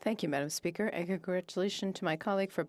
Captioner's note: speaking French